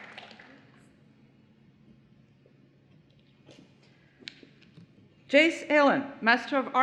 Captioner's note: applause